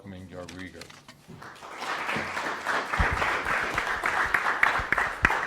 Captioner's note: audience applauds